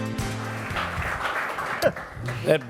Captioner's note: applause